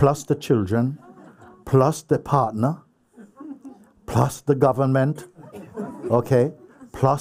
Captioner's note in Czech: smích; smích